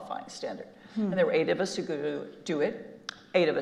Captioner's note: regular voice